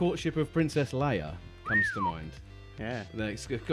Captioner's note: whistles